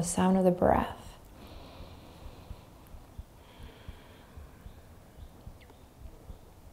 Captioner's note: inhaling and exhaling deeply